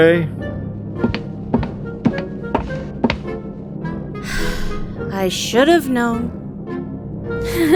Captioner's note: walking